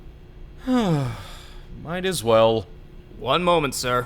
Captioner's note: sigh